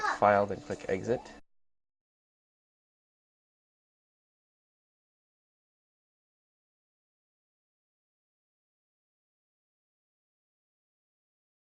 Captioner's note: silence